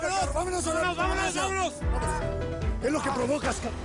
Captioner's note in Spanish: Hablan al unísono